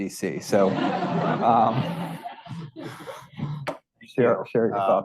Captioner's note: audience laughing